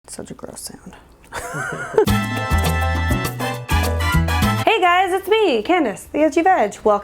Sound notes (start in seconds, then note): 1.3 laugh; 2.0 mariachi music